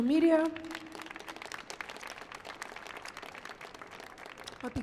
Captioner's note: audience applauds